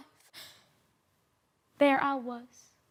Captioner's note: sharp breaths